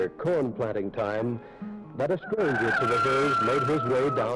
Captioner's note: cock crows